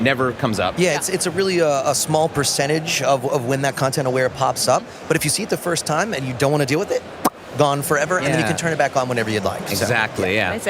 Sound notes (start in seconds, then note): 7.2 pop sound